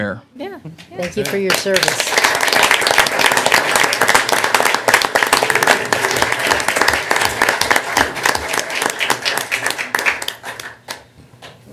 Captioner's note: applause